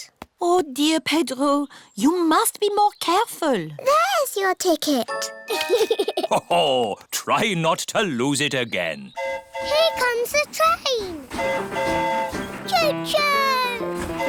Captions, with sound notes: Oh, dear, Pedro, you must be more careful. -There's your ticket. -(GIGGLES) -Ho-ho! Try not to lose it again. -(TRAIN HORN HOOTING) Here comes the train. -(TRAIN HORN HOOTING) -Cho-choo!